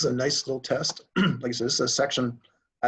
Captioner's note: clears throat